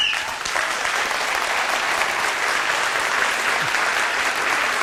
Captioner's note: applause